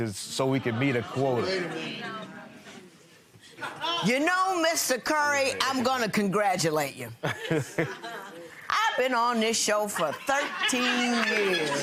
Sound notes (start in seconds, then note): 7.2 laughing